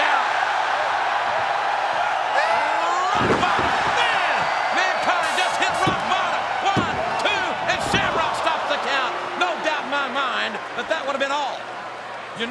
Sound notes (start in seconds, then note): 1.0 crowd cheers; 3.1 body thuds